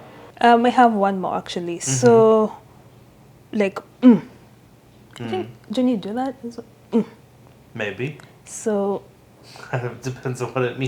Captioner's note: mmm